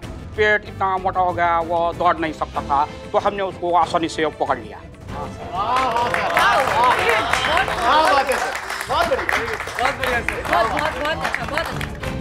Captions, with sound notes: Later, his stomach became so full that he couldn't run, so I caught him easily. Wow, sir. [applause] Good job, very nice.